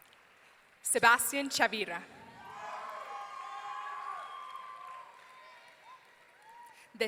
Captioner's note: audience cheering